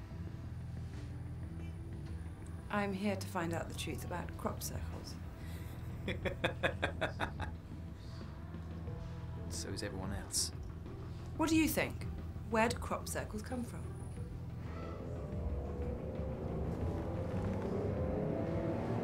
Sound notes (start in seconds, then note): 5.9 laughs; 13.8 dramatic music swells